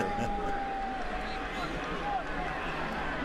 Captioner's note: laughs